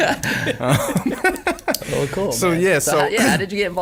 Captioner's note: laughing